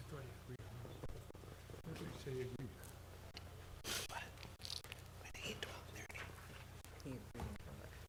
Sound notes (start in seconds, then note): 2.9 board chatting quietly